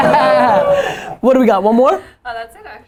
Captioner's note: laughter